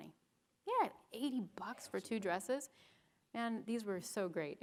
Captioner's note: none